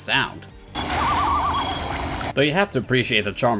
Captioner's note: chirping animal call